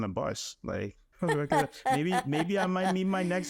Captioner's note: laughing